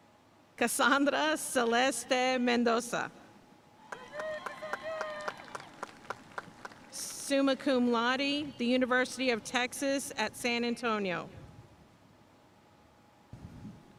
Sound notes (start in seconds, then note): 3.8 audience cheering and applauding